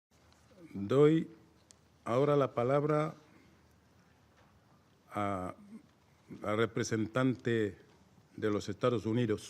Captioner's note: in Spanish